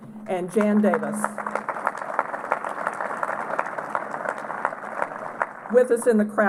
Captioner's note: applause